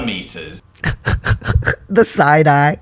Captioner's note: laugh